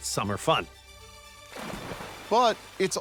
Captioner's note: water splashing